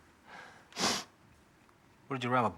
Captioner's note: Mack sniffles